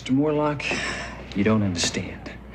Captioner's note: sighs